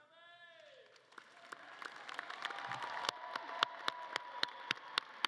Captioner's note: audience cheering and clapping